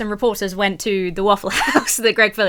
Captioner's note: laughs